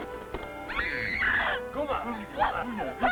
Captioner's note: hairy men talking in foreign language